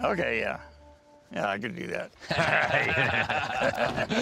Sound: laughs

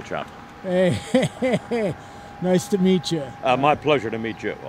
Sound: laughing

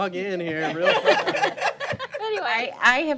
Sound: laughter

